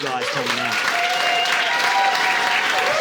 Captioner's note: audience applauding